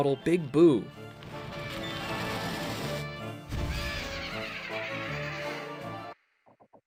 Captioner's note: laughs; silence, Kamek approaches